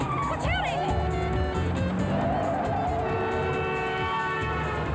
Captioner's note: cars honk